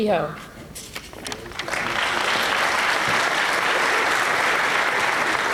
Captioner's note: applause